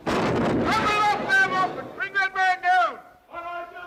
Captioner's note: gun fires